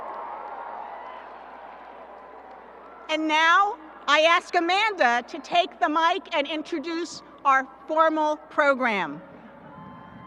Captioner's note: applause and cheering